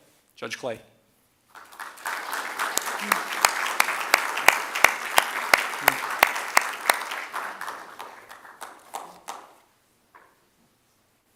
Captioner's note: applause